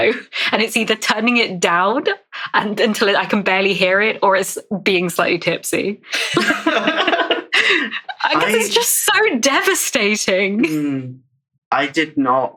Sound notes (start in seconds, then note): 2.7 laughs